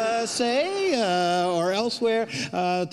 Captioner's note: audience laughs